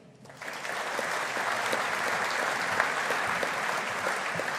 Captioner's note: audience applauding